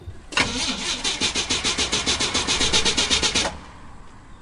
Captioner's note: engine sputtering